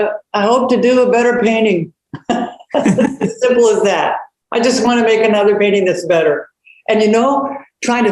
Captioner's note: laughs